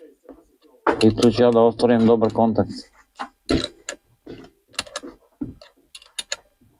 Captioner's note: coughs